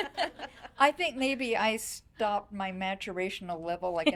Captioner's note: laughing